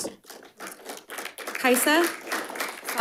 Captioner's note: audience applauds